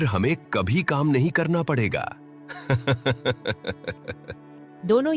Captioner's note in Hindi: हंसी